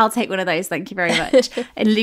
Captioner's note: laughing